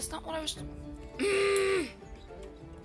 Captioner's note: angry girlfriend noise